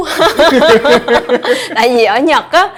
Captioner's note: laugh